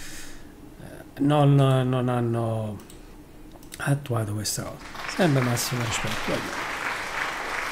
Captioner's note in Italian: Applauso